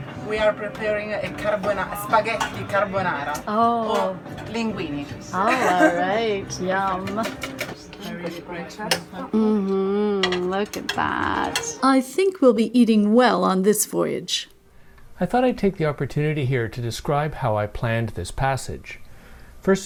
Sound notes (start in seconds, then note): 5.4 laughs